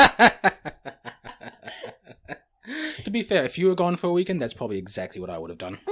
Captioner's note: laughs